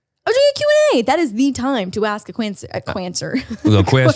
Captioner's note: laughs